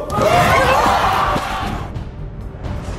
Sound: audience shouts; dramatic music

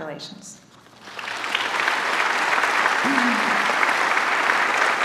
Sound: applause

